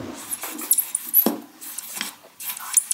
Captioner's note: clacking, dull sound; squeaking sound